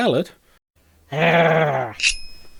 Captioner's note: growls